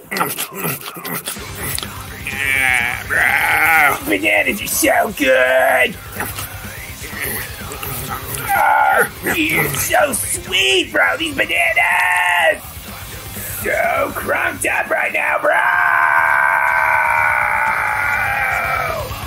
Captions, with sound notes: *contented, sloppy eating noises* *groans* Brooo.... Bananas are so gooood! *nomming noises* You're so sweet, bro! These bananaaaaaaaaas! Soo crunked up right now, broooooooooooooooooo!